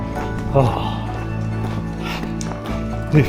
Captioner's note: breathing heavily